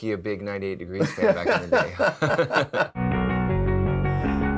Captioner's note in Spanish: ambos se ríen; jadea